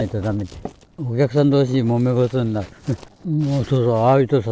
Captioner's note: laugh